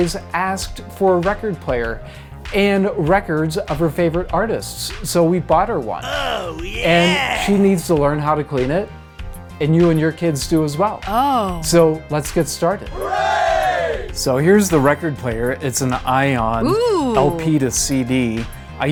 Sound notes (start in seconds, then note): 10.7 woman's voice ohhh; 12.9 group cheer